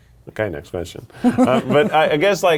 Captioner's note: laughing